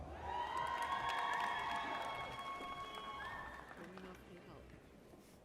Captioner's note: audience cheers